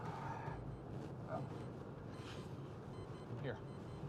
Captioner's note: beeping